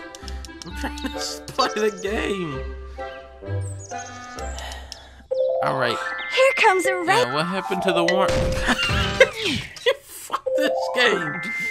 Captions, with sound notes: I'm tryin' to play the game! [ sighs ] All right. Yeah, what happened to the worm-- [ laughing ] You--fuck this game!